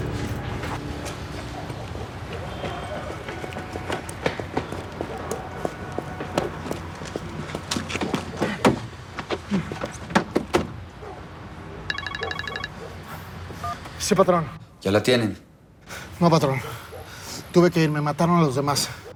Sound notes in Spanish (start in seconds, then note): 9.4 Sonido al abrir y cerrar la puerta; 11.9 Suena el celular